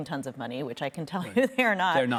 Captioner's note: chuckling